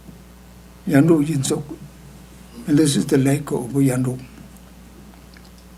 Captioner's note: speaking tibetan